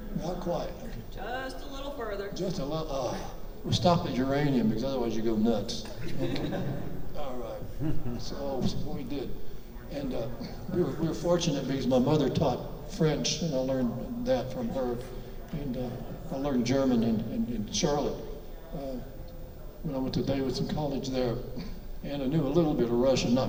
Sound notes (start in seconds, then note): 5.9 audience laughs